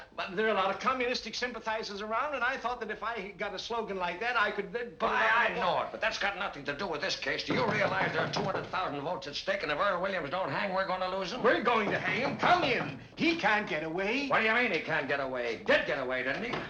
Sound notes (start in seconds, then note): 7.4 knocking